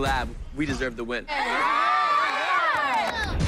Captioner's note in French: cheering